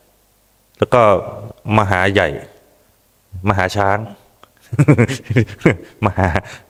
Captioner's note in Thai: เสียงหัวเราะ